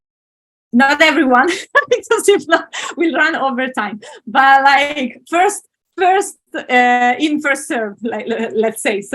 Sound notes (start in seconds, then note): 1.7 laughs